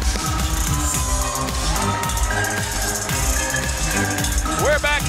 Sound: upbeat music; crowd cheering

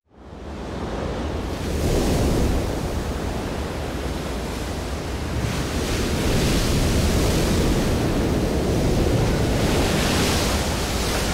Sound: waves crashing

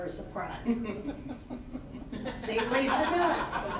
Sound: all laughing

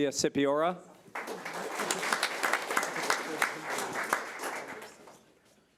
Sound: audience applauding

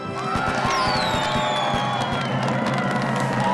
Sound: cheering

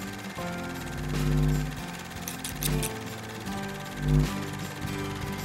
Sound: film reel spinning

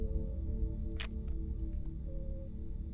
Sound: clicking; beeping

